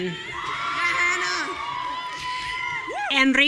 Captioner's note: audience cheering